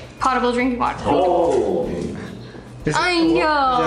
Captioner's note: talking